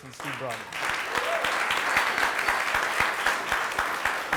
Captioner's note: applause